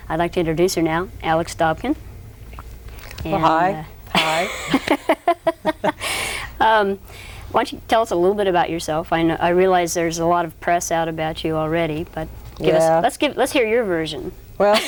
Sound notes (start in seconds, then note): 4.1 laugh; 14.4 laughs